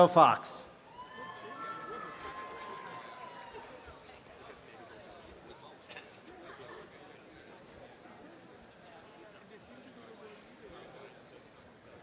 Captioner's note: background audience chatter; applause and cheering